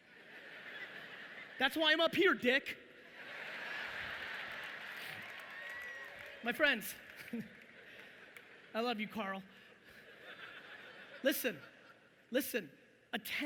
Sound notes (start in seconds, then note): 0.1 audience laughing; 3.0 audience laughing loudly